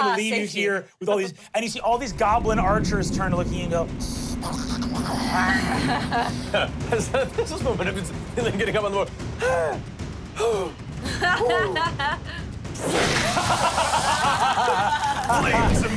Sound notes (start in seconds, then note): 4.0 snarls; 10.7 panting; 11.0 laughs; 12.6 whooshes; 13.1 everyone laughs